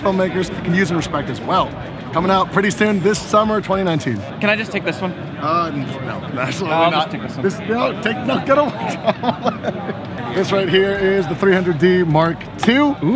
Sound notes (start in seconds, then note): 8.6 laughs